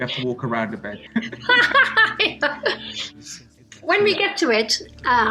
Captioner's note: both laugh